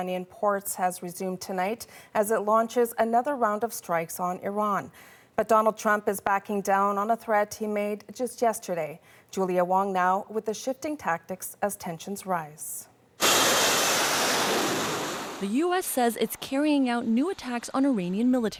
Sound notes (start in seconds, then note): none